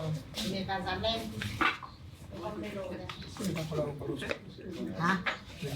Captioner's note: speaking in foreign language